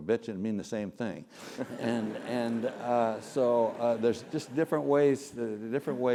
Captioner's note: laugh